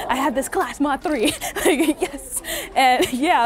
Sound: laughs

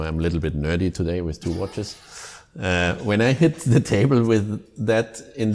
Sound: laughter

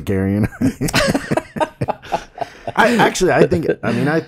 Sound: laughs

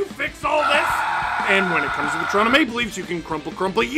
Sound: screaming

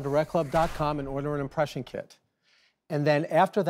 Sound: air whooshes

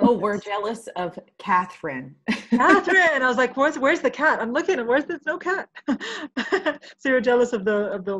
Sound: laughing

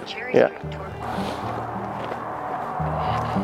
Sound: vehicle passes by whooshing; melancholy light classical music continuing

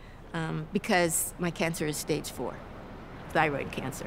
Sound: none

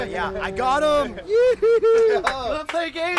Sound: cheers

